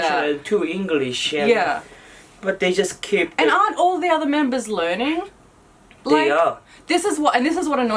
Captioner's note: Korean